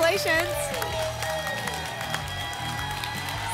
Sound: applause and cheering

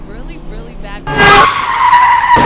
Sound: horn blares, tires screech; metal crunches

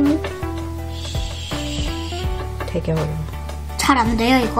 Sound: heart thumping

